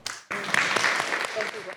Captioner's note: applause